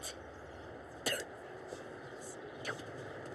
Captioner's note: spits